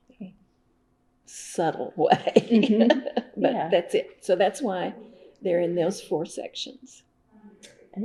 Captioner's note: laughs